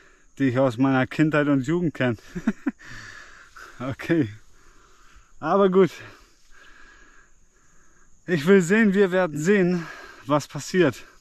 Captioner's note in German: gelächter